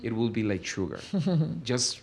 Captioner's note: laughs